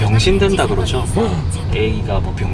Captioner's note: shocked gasp